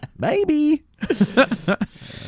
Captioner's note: breathes deeply